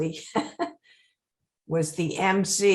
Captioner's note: laughing